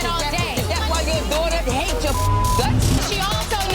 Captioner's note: beeping